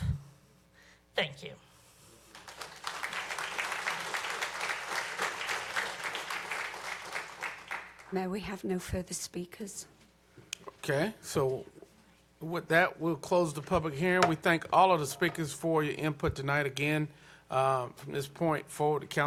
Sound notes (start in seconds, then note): 8.3 applause